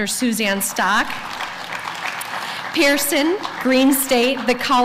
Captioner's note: applause